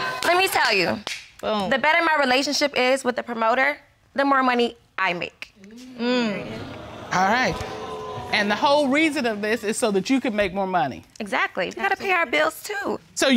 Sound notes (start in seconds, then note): 6.4 audience exclaims